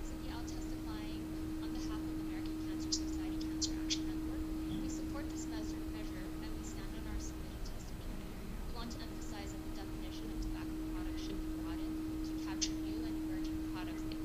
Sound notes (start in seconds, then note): none